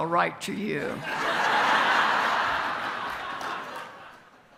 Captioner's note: audience laughs